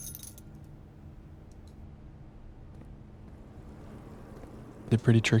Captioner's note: silence